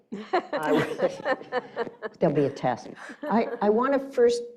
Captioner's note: laughing